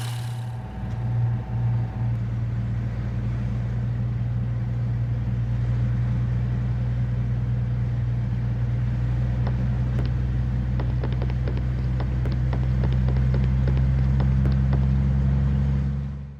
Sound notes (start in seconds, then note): 0.0 elevator motor hum; 0.2 crane engine howl; 10.6 footsteps; 10.7 crane engine howl